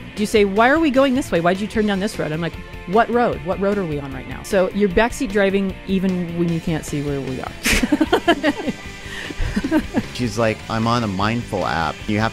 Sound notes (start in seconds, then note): 7.6 laughing